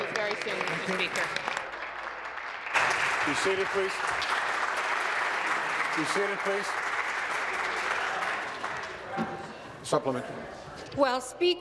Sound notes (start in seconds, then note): 5.3 applause